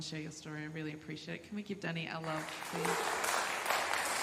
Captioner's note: applause